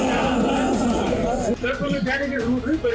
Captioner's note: audience cheers